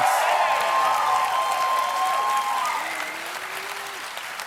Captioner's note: applause